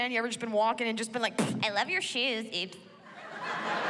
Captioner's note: mimics thudding; laughter